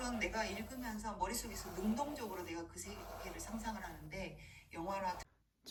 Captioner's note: scratch scratch